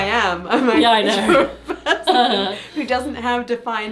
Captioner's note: laughs